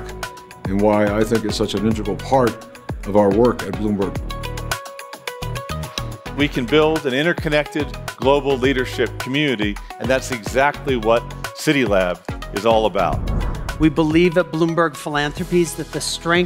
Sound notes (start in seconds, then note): 12.8 screen whooshes